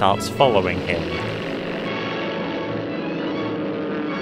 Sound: plane engine noises

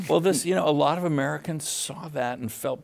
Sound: both laughing

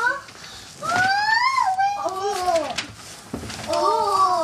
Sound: excited squealing

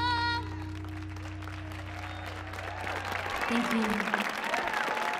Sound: audience cheering

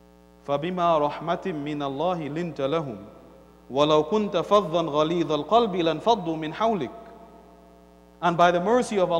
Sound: Arabic

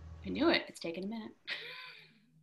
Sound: brief laughter

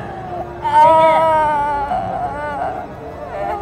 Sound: groans

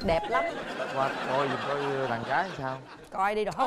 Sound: laughing

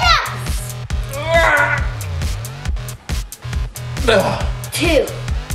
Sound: grunting

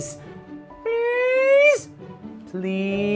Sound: speaking elvish

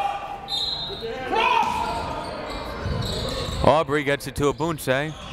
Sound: whistle

